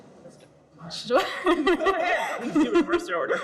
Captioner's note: group laughs